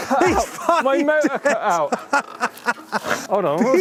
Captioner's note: laughing